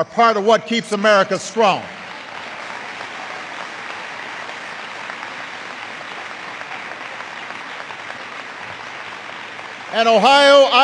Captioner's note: applause